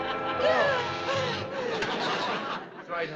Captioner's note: gasping